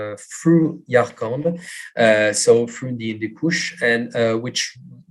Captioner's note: non-english